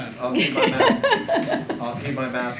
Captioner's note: laughs